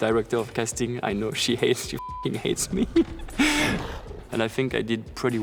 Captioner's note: laughs